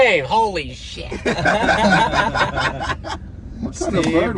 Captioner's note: laughing